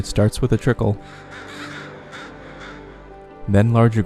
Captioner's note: crows cawing